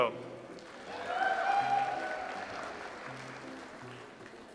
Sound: audience applauds

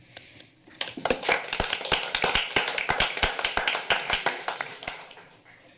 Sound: applause

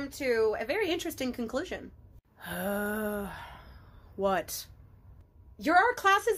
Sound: groans

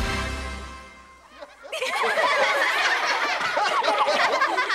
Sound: laughter

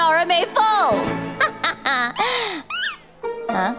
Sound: laughing

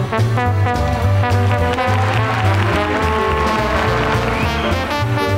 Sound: audience applauding

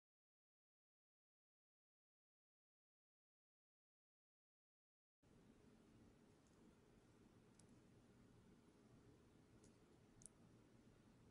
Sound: this video has no sound

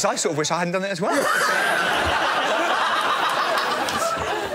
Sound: laughter

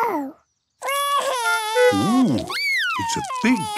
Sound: cries

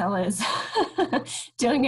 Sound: chuckles

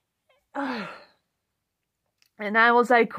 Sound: forced exhale

